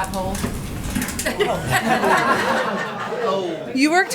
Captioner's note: laughter